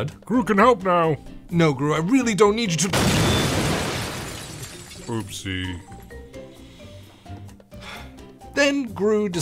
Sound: crash

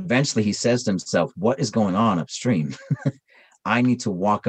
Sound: chuckles

